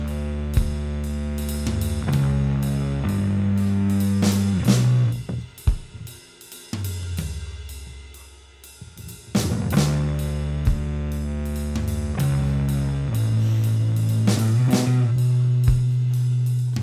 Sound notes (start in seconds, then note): 8.0 exhaling; 13.1 sighing